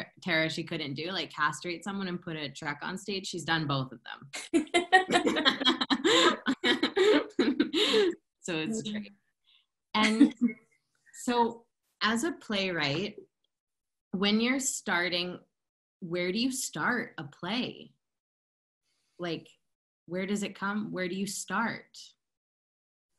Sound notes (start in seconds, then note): 4.6 laughter